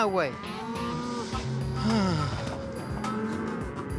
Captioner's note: mooing